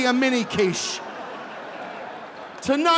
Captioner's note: audience laughing